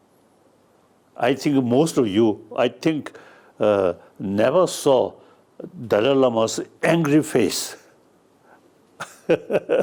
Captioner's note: laughs